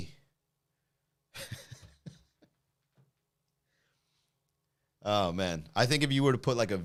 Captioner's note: laughs